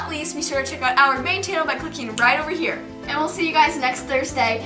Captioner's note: snaps